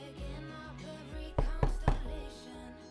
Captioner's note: Ezra knocking